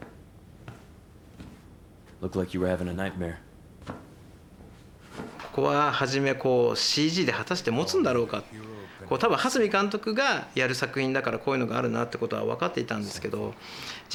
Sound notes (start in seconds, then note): 2.1 in English